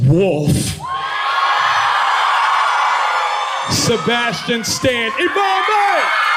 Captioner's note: cheering